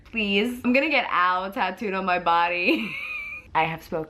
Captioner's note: laughs